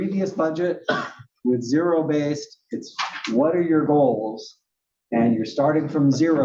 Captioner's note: cough